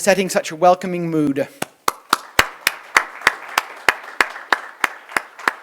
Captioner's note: applause